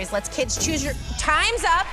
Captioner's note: whoosh